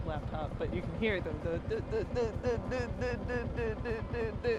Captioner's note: imitates bike noises